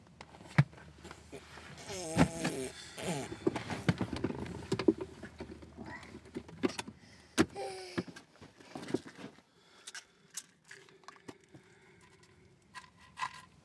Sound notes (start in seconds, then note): 3.9 babbling continues